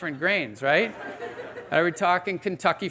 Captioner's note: audience laughing